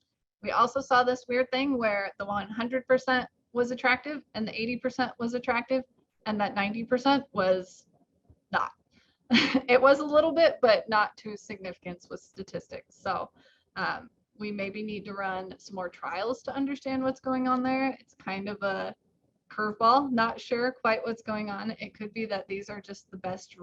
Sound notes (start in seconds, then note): 9.3 chuckles